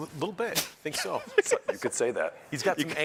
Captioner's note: chuckles